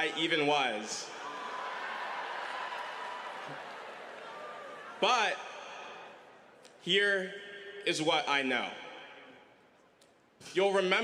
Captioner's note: audience reaction